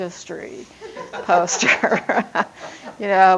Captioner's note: audience--laughing